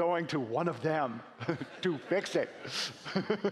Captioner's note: laughing